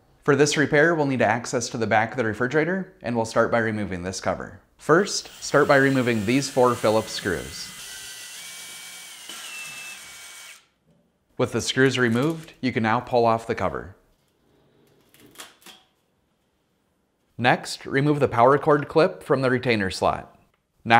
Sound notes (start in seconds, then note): 8.1 electric screwdriver